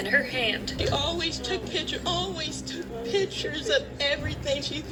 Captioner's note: on TV